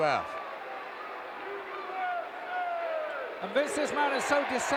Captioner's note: audience cheering